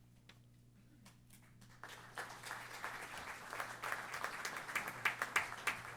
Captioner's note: applause